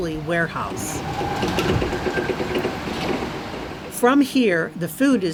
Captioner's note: forklift engine hums